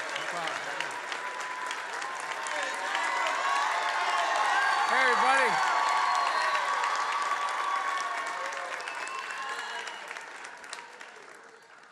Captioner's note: applause